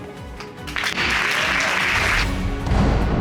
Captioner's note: audience applauding; dramatic music playing